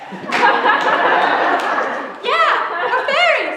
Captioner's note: laughter